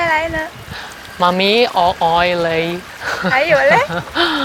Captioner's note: Cantonese